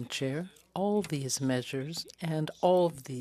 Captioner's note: speaking French